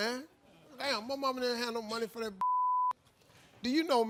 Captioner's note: beep